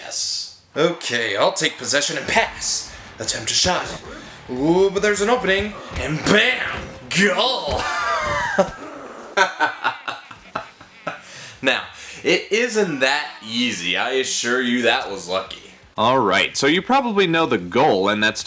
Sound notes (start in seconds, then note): 9.3 laughter